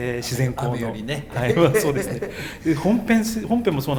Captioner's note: laughs